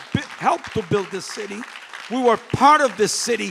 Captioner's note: applause